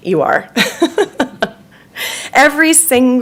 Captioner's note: laughing